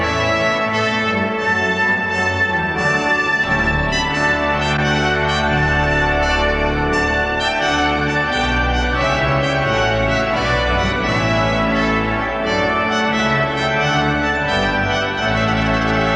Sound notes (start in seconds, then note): none